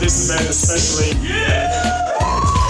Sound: applause

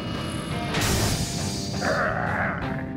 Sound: growling

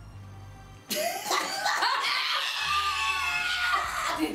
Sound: all laughing

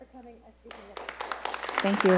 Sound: applause

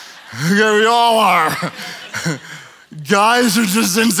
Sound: laughs

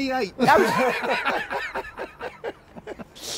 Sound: laughs

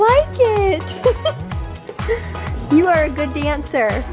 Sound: laughs

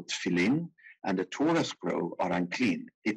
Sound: speaking in foreign language

